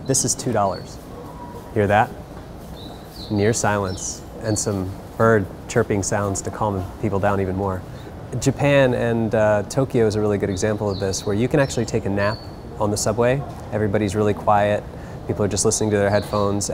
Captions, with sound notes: This is two dollars. Hear that? (birds chirping) Near silence and some bird chirping sounds to calm people down even more. Japan and Tokyo is a really good example of this where you actually take a nap on the subway everybody's really quiet, people are just listening to their headphones,